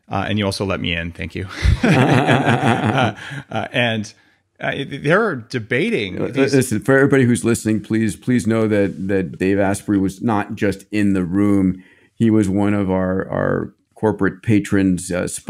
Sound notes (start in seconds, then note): 1.5 both laughing